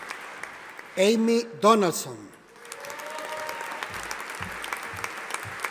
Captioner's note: audience applauding